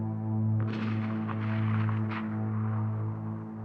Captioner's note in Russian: слышен удаленный выстрел